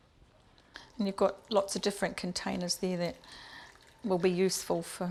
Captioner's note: sound of pouring water